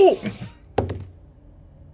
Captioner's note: dice rolling